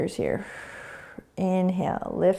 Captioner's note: exhaling